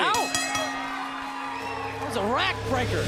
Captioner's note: bell ringing